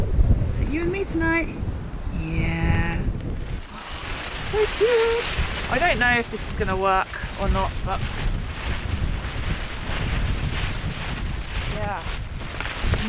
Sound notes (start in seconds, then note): 8.7 wind